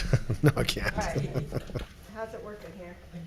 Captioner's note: chuckling